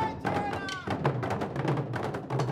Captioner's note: drums beating; shouting in language other than English